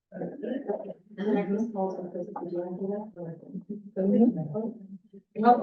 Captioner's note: chatter